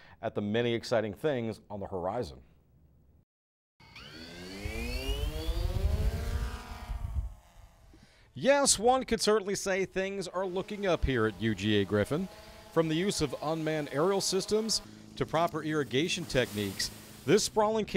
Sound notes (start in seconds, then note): 3.8 sound of Drone Taking Off